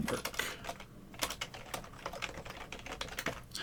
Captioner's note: keyboard clicking